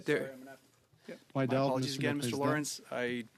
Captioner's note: speaking French